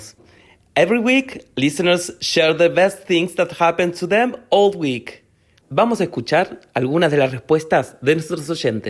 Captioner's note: speaking Spanish; speaking Spanish